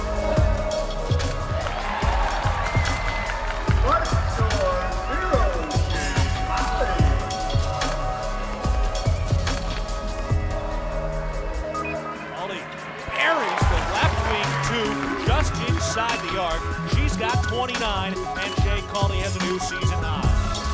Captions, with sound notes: (crowd cheering) (dramatic rap beat) Arie, the left wing to just inside the yard, she's got 29 and Shay Colley has a new season high.